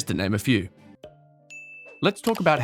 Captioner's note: bell chiming